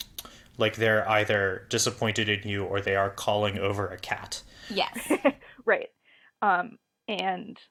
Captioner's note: laughs